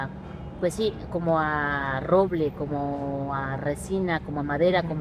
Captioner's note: speaks Spanish